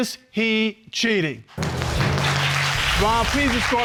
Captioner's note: audience applauds